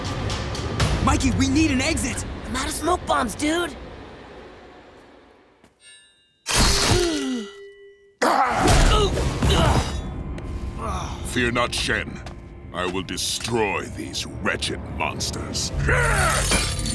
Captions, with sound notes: Mikey, we need an exit. I'm out of smoke bombs, dude. [gasping] [grunting] Fear not, Shen, I will destroy these wretched monsters.